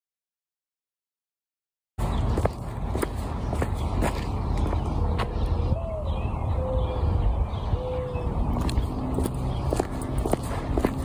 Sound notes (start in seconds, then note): 2.1 footsteps; 2.4 morning dove call; 8.4 footsteps on pavement